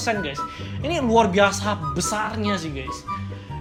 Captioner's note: gasp